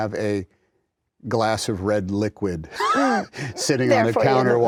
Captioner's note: chuckles